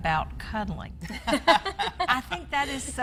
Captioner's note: laughs